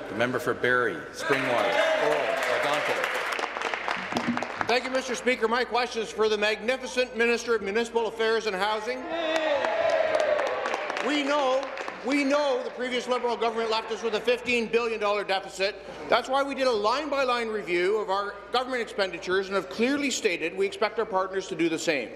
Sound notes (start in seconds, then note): 0.0 applause; 0.8 conversation din; 6.1 applause; 12.7 applause